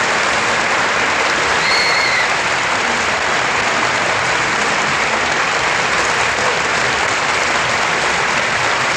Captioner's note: applause